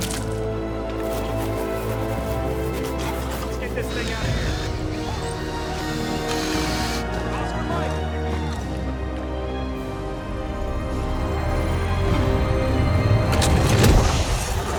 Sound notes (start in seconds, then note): 0.1 Walter sputters; 3.7 drill whirring; 11.8 intense music